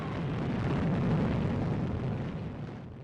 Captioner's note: explosion